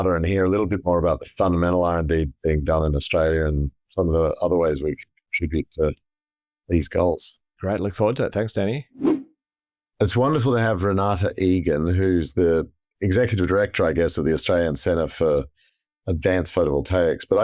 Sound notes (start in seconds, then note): 9.0 whooshing sound effect